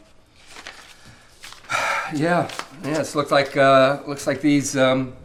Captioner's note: sighs